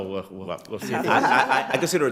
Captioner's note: all laugh